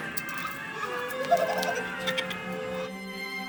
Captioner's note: evil laugh